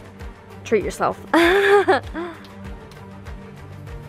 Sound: laughs

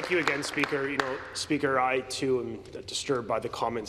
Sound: applause

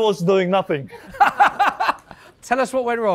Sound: laughter

